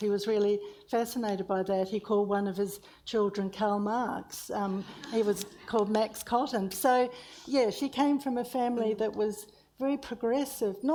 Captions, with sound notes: He was really fascinated by that. He called one of his children Karl Marx. (audience laughs) He was called Max Cotton. So yeah, she came from a family that was very progressive,